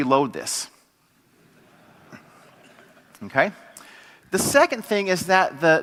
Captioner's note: laugh